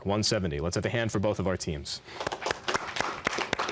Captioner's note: applause